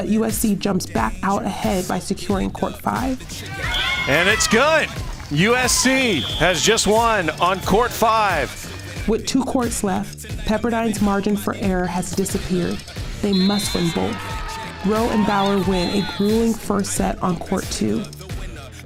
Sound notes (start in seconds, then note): 3.3 cheers; 13.2 whistle blows; 13.3 cheers; 18.6 upbeat music